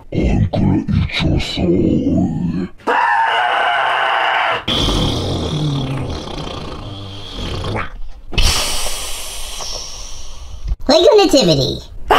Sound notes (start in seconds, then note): 0.1 demonic Voice; 2.8 screaming; 4.6 defecation Sound; 10.7 squeaky Voice